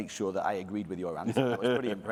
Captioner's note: laughter